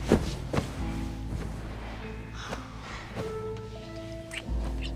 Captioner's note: breathing and kissing